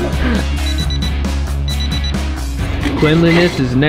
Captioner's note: rock music; timer beeps